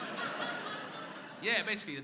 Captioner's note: crowd laughing